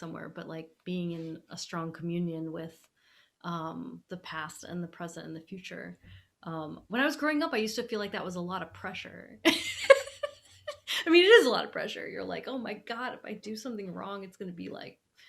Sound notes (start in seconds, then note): 10.0 laughing